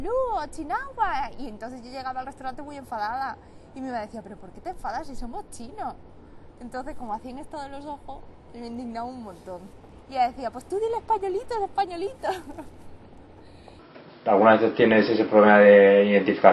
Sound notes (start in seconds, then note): 12.0 laughs